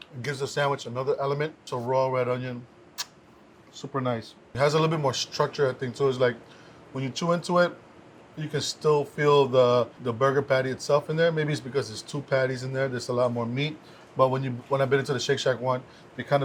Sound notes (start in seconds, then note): 3.0 finger smack